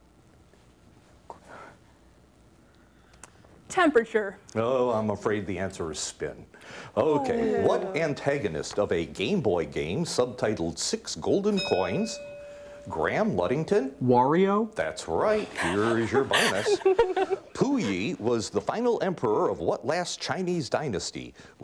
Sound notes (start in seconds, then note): 11.5 bell ringing